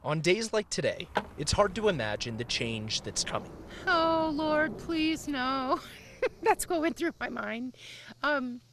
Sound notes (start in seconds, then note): 5.9 brief laughter